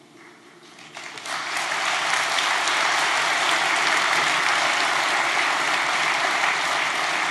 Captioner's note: applause